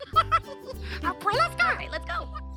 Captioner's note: Elmo laughing